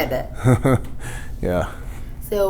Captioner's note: chuckles